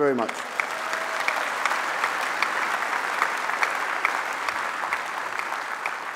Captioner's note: applause